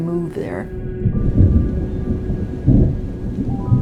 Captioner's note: thunder rumbling